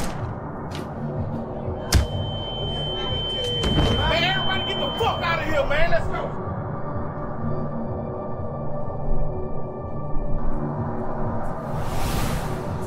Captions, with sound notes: (body thumping) - I need everybody to get the fuck out of here. Man, let's go. (dramatic music)